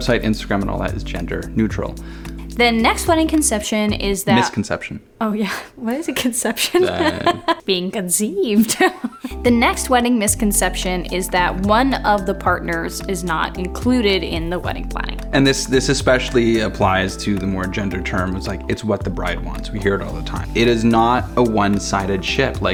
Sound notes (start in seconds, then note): 8.8 chuckles